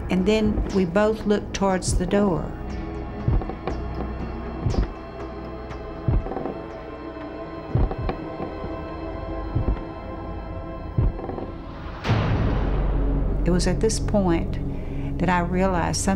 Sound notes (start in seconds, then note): 3.2 footsteps creaking